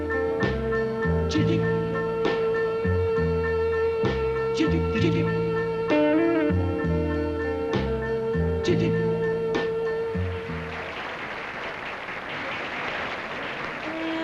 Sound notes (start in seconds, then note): 10.2 applause; 13.8 slow jazz music